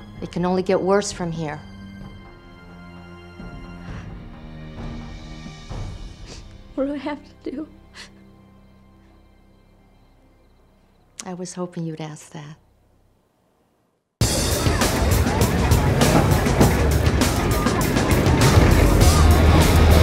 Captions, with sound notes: It can only get worse from here. What do I have to do? I was hoping you would ask that. (upbeat music) (crowd chattering) (engines rumbling)